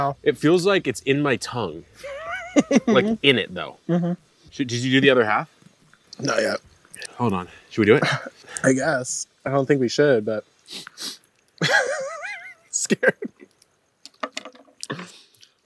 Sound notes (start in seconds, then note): 10.6 both sniffs; 11.6 laughing; 14.3 knife thuds